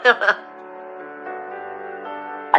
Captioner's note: laughs